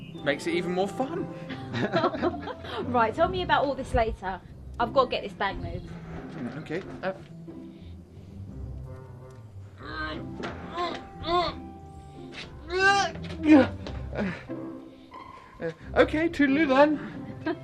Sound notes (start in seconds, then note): 1.4 laughing; 9.7 Arnold grunting